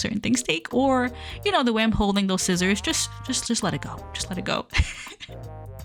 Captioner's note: laughs